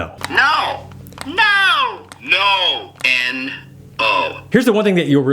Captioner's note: electronic Voice